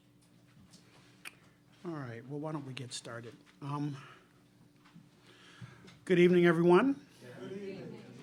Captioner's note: crowd responds good evening